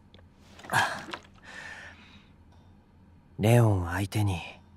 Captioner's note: sigh